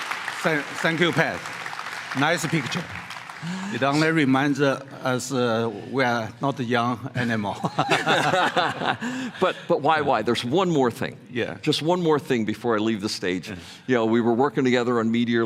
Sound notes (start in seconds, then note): 7.5 laughter